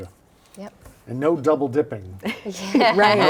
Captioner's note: both laughing